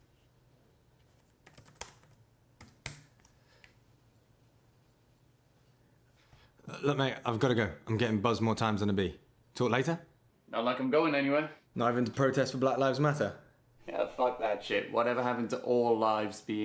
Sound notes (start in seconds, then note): 1.4 tapping keyboard